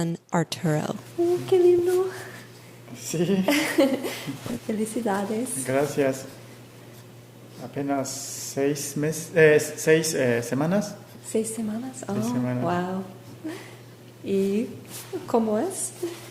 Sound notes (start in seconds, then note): 4.9 more chatter in Spanish